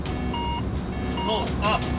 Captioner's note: terrain warning sounds; alert sounding; recorded Voice